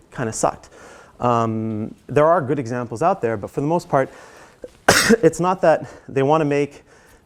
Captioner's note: cough